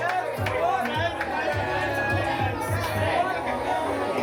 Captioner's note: crowd chattering